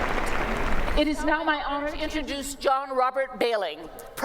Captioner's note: applause